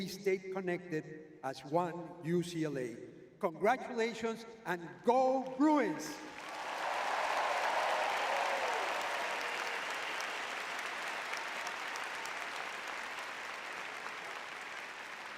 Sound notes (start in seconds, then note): 7.9 cheering